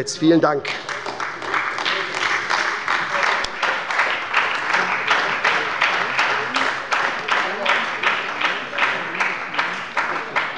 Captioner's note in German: Beifall bei der SPD und der LINKEN